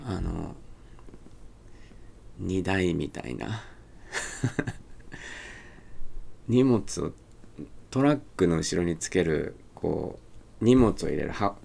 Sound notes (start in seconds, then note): 4.1 chuckles